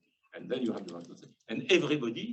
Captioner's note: speaking faintly